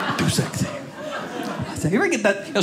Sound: audience laughing

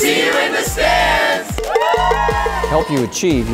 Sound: cheering

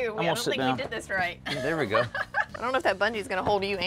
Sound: chuckles

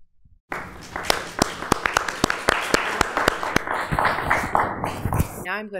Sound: applause

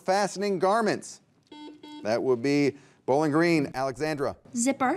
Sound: buzzer beeps

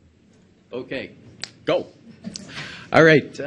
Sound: snaps; audience member laughs

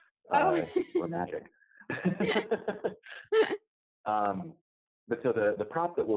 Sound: laughs

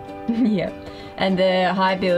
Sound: laughs

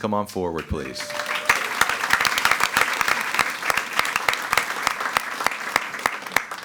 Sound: attendees cheering and clapping

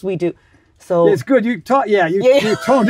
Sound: laughs

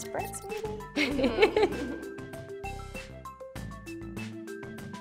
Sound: both laugh

